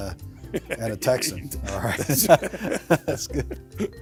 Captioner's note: chuckling